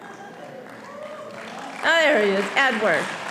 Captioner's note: audience applauding